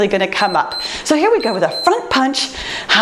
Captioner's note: timer beeps